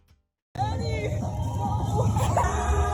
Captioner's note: laughter